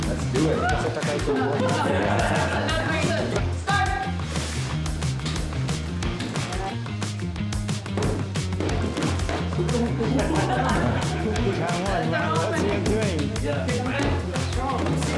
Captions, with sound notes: - Let's do it. (laughter) - Start. (laughter) - What you are doing? - Yeah. Keep on going. You're strong.